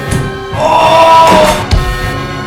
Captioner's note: scream of pain